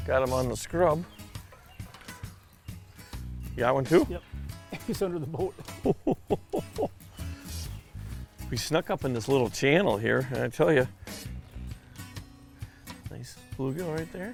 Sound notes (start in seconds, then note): 4.6 chuckles; 4.6 laughs